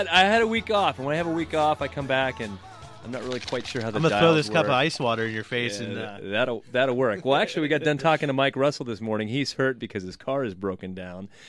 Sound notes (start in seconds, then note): 3.2 rustles ice in his cup